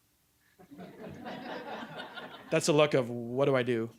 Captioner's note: audience laughing